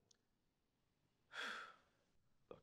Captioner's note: sighing